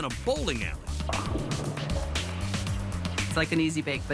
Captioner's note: bowling pins clatter